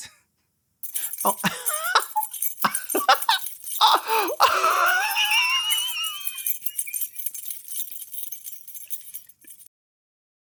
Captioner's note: the joyous laughter of someone who has great opinions